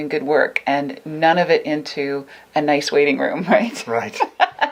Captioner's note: laughs